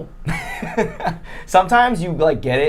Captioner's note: laughing